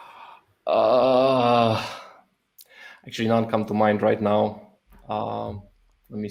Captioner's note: groans